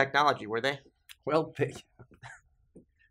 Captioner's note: chuckles